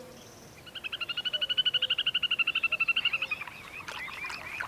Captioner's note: chittering call